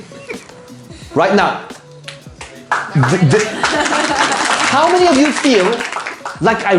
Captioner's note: audience chuckles; clapping